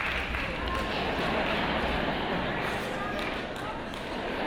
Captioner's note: audience laughing